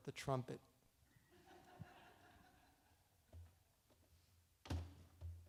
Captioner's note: audience laughs